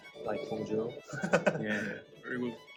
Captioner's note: laugh